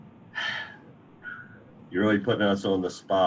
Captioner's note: sighing deeply